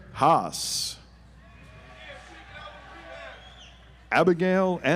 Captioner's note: audience applauds